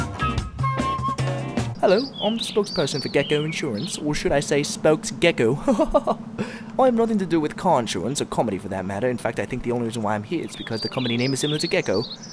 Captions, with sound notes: Hello, I'm the spokesperson for Gecko Insurance. Or should I say "Spokesgecko"? (fake laughter) I've nothing to do with car insurance, or comedy for that matter. In fact, I think the only reason why I'm here is because the comedy name is similar to Gecko.